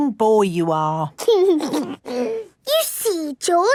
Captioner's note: giggles